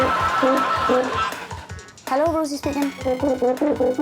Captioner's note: phone ringing